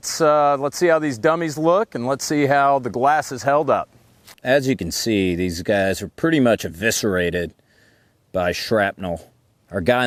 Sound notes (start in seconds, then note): none